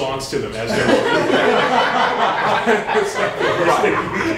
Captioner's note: laughter